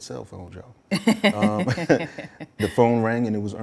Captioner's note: laughs